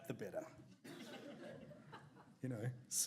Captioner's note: audience chuckles